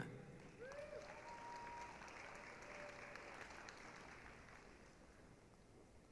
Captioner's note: applause, cheering